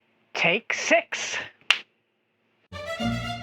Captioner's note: clap